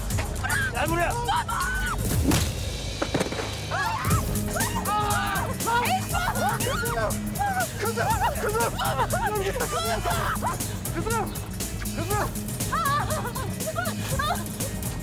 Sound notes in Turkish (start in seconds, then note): 0.0 Kargaşa ve bağırma sesleri; 3.6 Kargaşa ve bağırma sesleri